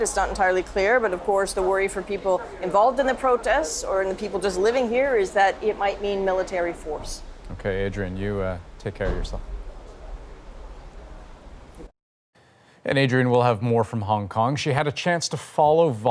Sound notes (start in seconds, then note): none